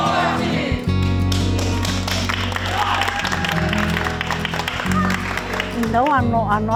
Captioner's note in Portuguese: Aplausos